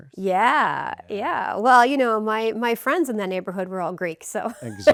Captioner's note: laughs